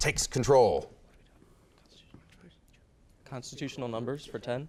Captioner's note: whispering